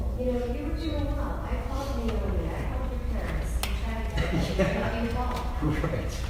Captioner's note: laughing